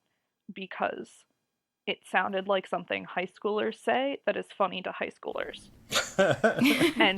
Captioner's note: laugh